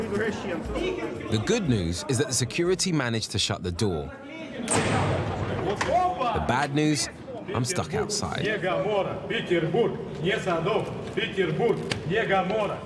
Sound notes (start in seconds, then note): 4.7 door banging; 9.2 chanting in foreign language